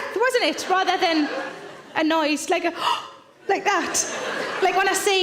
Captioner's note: gasps